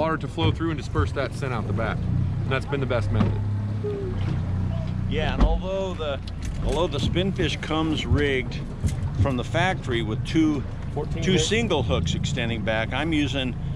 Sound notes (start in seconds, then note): 4.4 boat engine idling